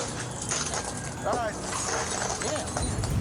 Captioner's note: glass shatters